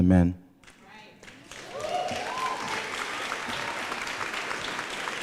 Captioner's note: applause